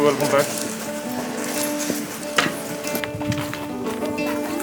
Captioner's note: laughs